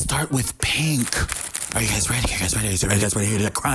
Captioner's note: bag rustling